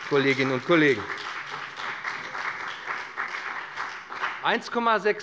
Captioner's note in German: Beifall bei dem BÜNDNIS 90/DIE GRÜNEN und der CDU